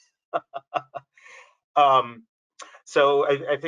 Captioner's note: laughs